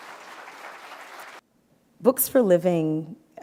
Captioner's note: applause